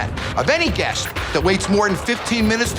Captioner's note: none